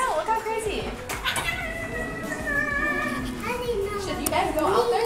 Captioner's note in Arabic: طفل يتأوه